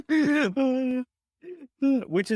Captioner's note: chuckling